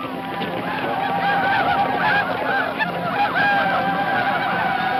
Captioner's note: shouting; hooves thumping